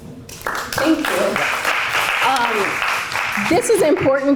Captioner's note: applause